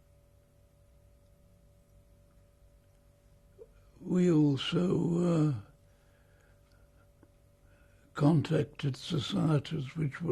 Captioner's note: pauses for 3 seconds